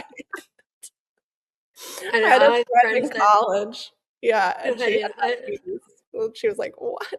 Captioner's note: laughs